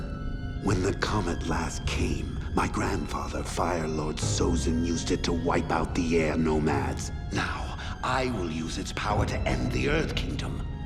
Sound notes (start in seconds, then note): none